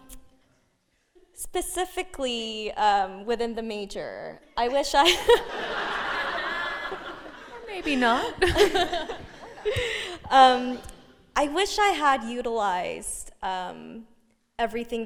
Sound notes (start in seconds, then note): 5.0 laughing